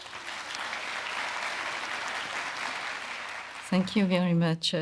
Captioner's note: audience applauding